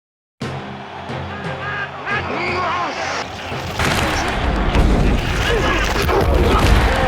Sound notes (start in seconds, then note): 0.4 fans cheering; 3.6 loud thuds and groans